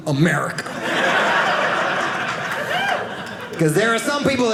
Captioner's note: audience laughing